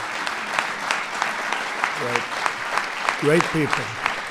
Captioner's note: applause